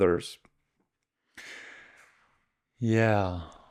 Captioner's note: sighs